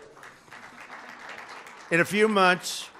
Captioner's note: applause